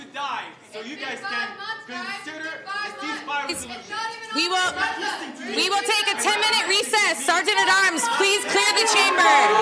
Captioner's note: crowd noise